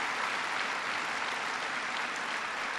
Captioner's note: applause